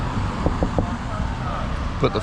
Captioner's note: knock knock knock